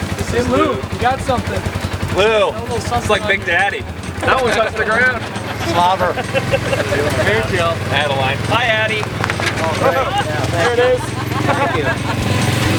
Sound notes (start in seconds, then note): 1.8 laugh; 6.3 laughter; 9.6 laughter